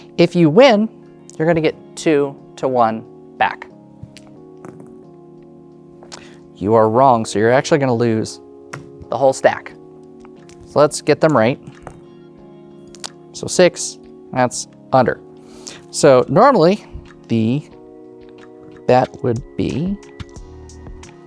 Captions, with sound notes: If you win, you're gonna get two to one back. (dice rolling) You are wrong, so you're, actually, gonna lose (tokens thud) the whole stack. So, let's get them right. (dice rolling) So, 6, that's under. So, normally, the-- That would be--